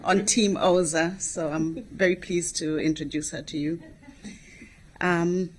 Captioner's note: laughter